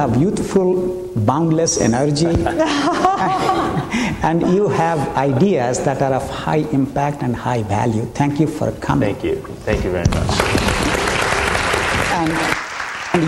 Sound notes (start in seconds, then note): 2.4 laughter; 10.2 applause